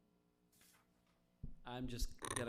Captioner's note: paper rustling